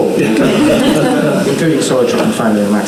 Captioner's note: audience laughing